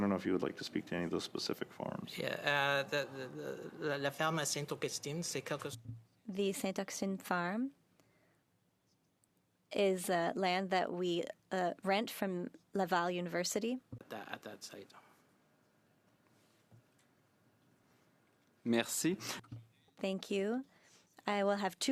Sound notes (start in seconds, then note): 10.3 speaking French